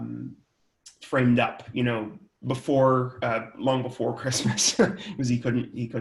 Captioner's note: laughs